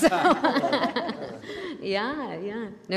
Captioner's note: panelists laugh